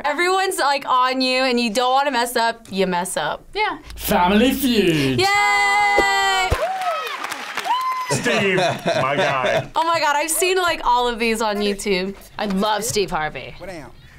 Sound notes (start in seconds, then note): 6.7 audience cheers